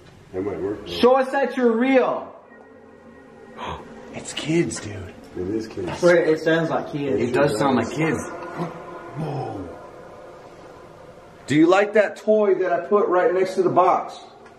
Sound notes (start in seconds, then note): 2.9 high pitched voice; 3.4 gasps